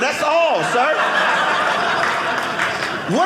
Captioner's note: audience laughing